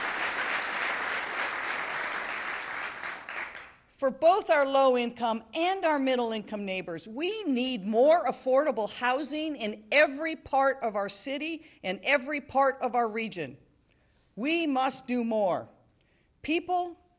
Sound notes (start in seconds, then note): 3.2 applause